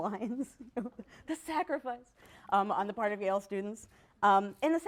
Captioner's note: laughs